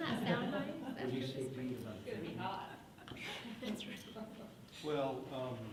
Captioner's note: muffled chatting